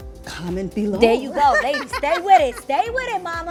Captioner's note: laughs